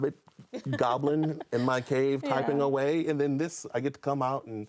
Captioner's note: laughs